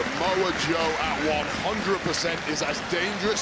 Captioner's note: audience cheering